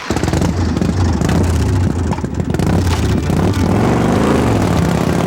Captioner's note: revving motorcycl